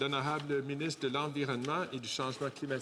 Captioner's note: speaking French